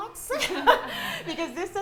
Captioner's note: both laugh